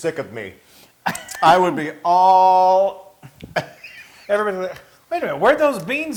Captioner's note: laugh